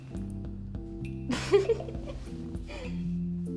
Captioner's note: laughs